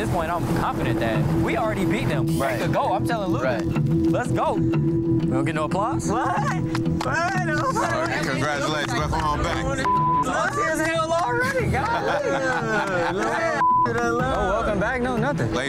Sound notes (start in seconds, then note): 6.6 hands clapping; 11.2 all laughing